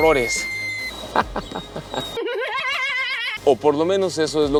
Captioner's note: laughter